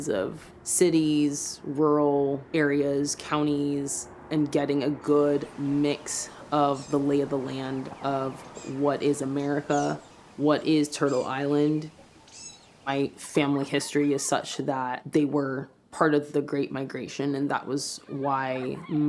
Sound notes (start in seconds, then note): 11.8 birds call